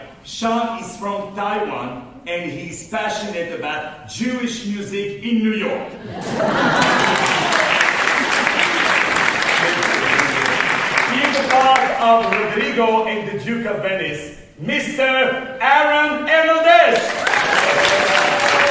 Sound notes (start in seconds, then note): 6.6 applause; 16.9 applause